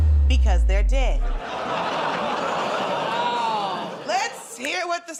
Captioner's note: laughter